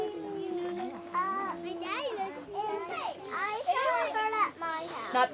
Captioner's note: children chattering